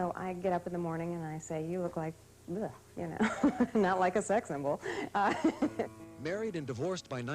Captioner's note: laughs